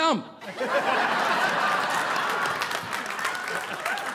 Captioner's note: audience laughing